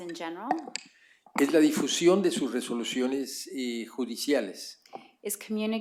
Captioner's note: speaking spanish